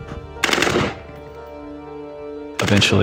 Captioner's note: gunshots